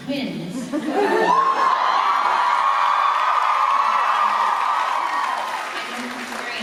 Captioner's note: applause